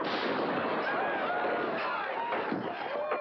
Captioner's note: crash